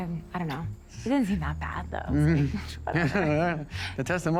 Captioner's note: walter chuckles